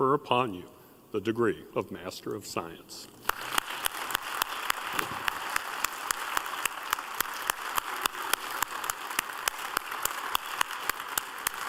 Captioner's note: applause